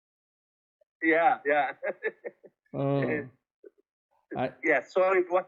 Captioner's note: laughs